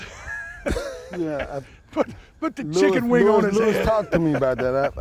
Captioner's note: laughter